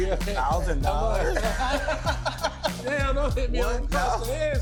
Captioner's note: laughing